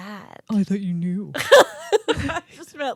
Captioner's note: laughing